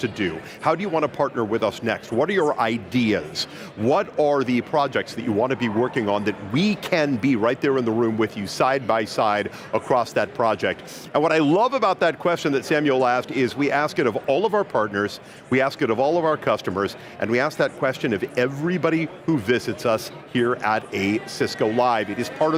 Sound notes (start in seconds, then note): none